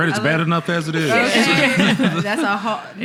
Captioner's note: laughing